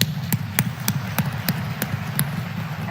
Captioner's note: applause